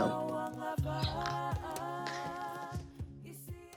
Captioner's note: exclaims